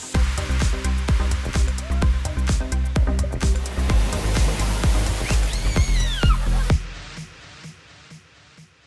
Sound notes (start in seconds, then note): 0.0 yelling; 0.0 upbeat techno music; 3.4 water splashing